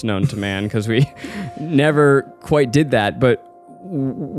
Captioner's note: chuckles